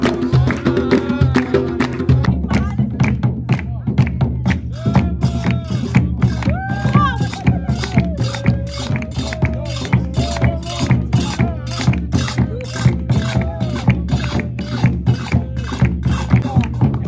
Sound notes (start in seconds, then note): 2.5 claps; 2.5 drums beating